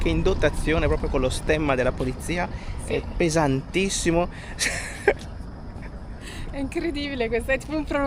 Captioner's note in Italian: risate